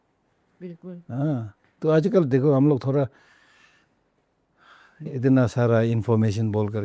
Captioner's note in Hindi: गहरी सांस लेने की आवाज़